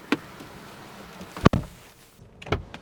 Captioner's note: door Thud